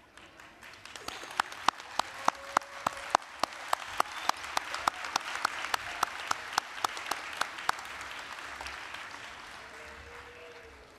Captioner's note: applause, cheering